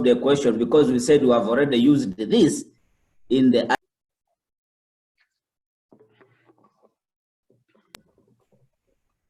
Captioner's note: audio cut out